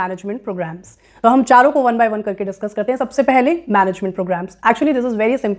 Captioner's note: speaking hindi